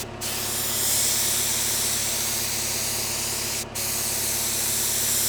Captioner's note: sprayer whirring continues